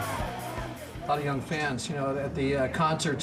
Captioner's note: audience cheering